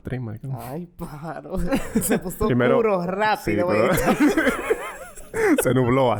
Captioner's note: laughs